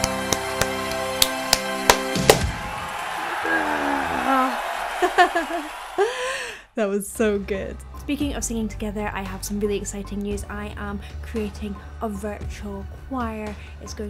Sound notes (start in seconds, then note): 0.2 audience cheering; 0.2 clapping; 3.2 laughing; 3.4 exclaims